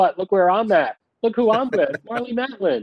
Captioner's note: laughing